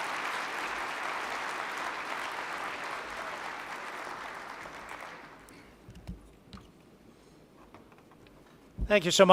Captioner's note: applause